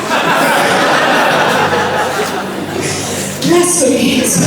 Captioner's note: laughter